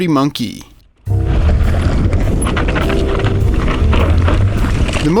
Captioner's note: wind blowing